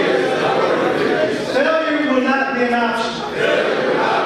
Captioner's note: audience speaking